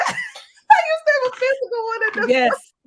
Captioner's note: laughs